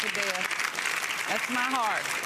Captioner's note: audience applauding